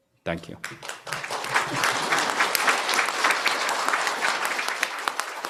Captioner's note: applause